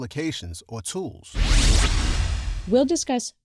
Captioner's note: electronic whoosh